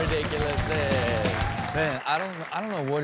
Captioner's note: audience applauds